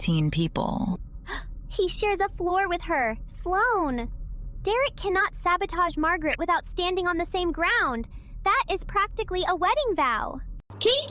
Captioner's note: gasp